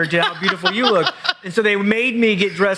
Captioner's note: laughs loudly